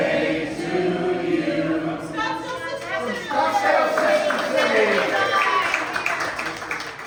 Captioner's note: cheers and applause